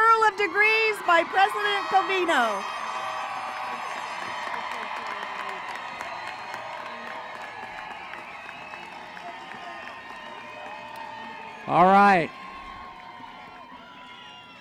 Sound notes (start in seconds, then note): 3.5 applause and cheering